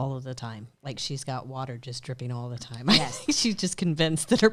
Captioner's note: chuckles